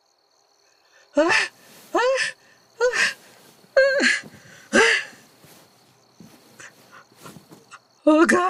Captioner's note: wakes up shrieking